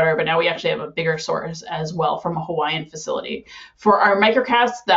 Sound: none

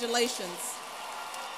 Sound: applause

